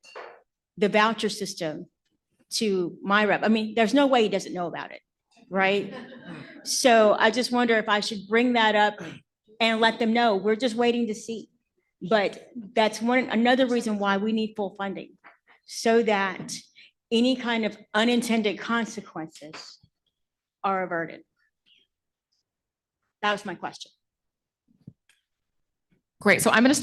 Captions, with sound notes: So I'm wondering if you think it's wise to bring up the voucher system to my rep -- I mean, there's no way he doesn't know about it, right? (Laughter.) So I just wonder if I should bring that up and let them know, we're just waiting to see. But that's another reason why we need full funding, so that any kind of unintended consequences are averted. That was my question.